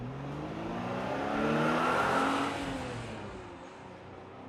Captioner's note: car driving off into the distance